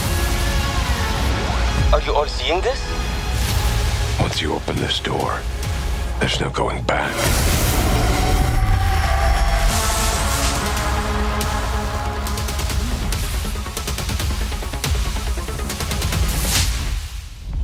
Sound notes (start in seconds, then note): 7.8 electronic distortion; 10.3 tense electronic music